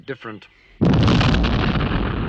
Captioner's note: john cleese explodes